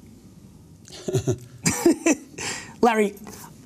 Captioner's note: laughing